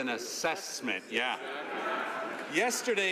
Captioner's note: some Applause